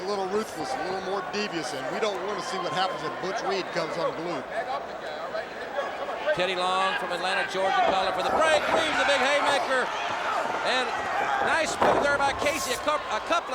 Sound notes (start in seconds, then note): 5.7 crowd chatter